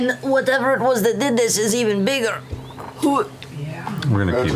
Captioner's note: gags